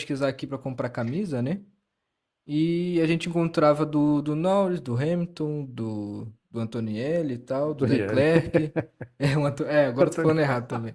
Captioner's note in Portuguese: risadas